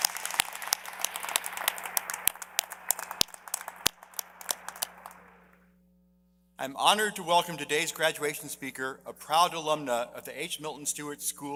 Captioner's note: applause